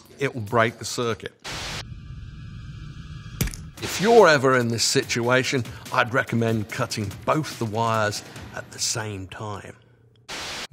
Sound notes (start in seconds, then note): 1.8 suspenseful music; 3.3 wire cutter clinks